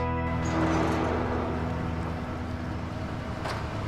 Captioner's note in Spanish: Ruido del vehículo